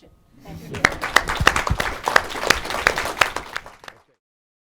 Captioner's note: applause